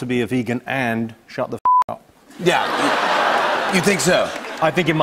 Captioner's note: laughter